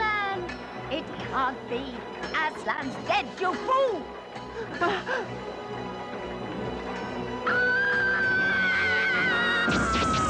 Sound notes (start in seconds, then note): 7.5 witch screams